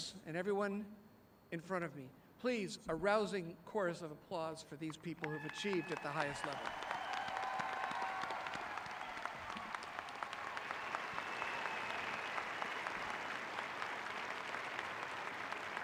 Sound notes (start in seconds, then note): 6.9 applauding